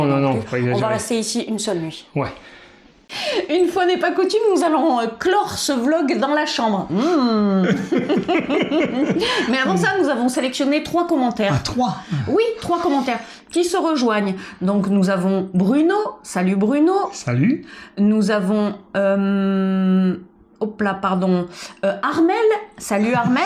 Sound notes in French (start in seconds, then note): 7.5 rires